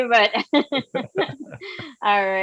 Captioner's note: laughing